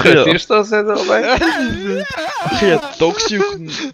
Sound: angry autistic screeching

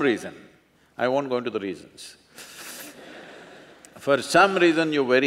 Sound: laughter

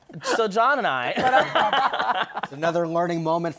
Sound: laughter

